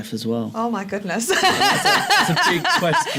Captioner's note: laughs